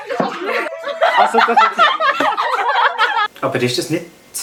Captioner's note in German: Gruppe lacht laut